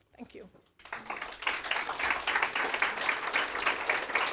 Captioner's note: applause